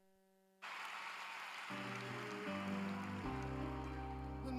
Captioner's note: applause